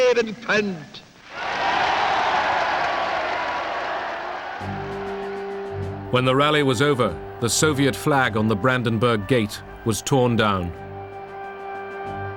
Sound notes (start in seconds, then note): 1.2 crowd cheers